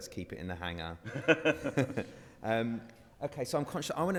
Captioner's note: all laughs